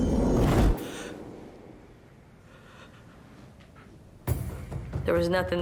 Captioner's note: suspenseful; gasps